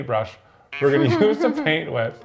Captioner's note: chuckles